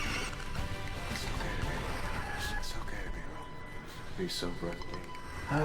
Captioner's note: echoing; echo